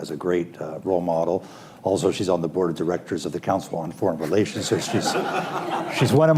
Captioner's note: laughter